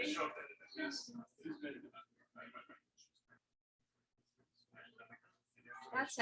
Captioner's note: people chattering indistinctly